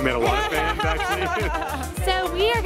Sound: laughing

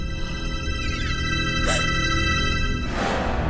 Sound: gasp

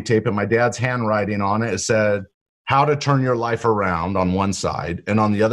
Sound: none

